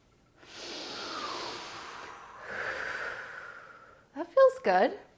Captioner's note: deep breaths